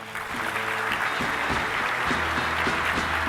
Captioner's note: applause